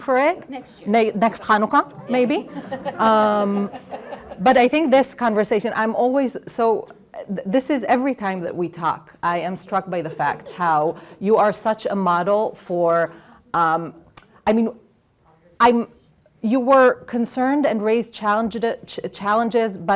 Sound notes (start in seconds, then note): 2.0 laughter